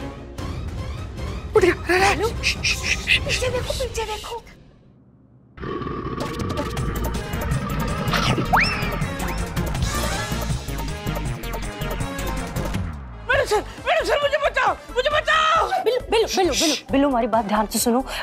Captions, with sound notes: - Wake up! - Look behind. [growling] [comical music] Maddam Sir, help me. Billu, listen to me carefully.